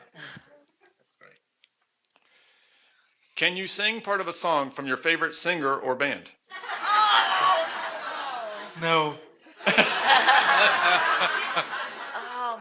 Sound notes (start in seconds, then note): 9.5 laughter